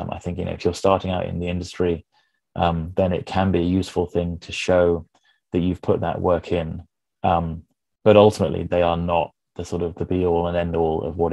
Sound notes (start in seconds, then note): none